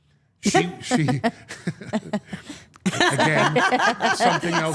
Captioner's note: all laughing